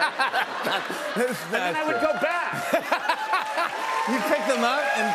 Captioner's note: laughs